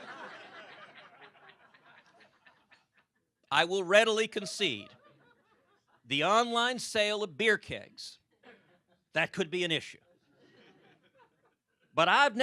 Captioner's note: laughter